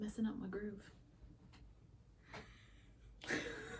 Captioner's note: giggle